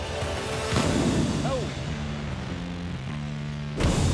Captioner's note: intense music; explosion sound